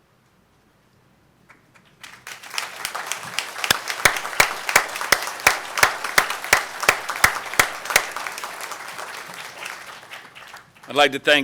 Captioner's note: applause